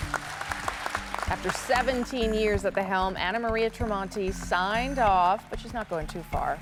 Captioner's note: applause